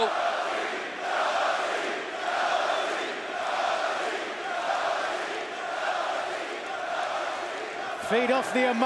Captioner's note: crowd cheering